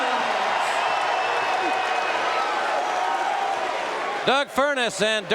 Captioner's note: audience cheering